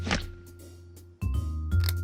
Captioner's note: click